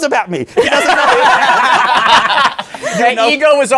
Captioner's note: laughter